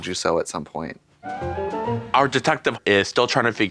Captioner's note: bright chime